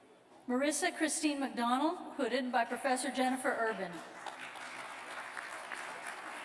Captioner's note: applause